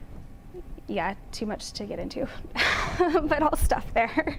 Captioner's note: chuckles